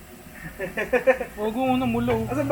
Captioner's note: laughs